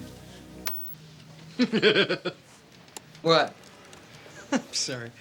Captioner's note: Tommy laughs